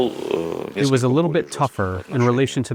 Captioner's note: through translator